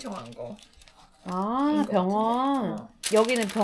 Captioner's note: tearing open the mail